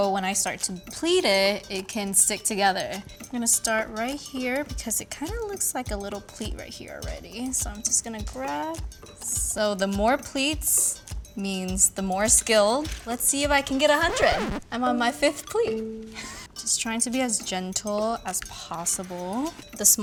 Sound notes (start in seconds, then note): 13.4 record skipping